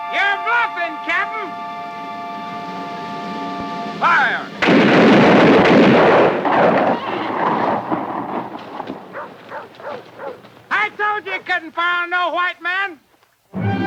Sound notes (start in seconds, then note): 4.5 guns fire; 13.5 ominous orchestral music